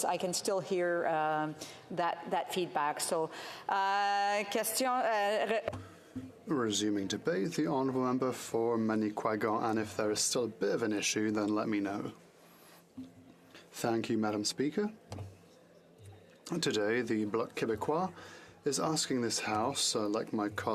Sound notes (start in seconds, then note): 8.9 speaking French